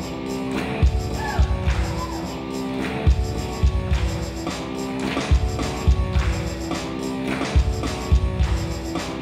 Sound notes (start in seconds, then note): 1.0 audience members cheer; 6.1 intense rock music